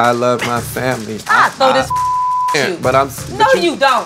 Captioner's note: beep